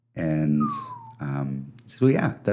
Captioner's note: whistle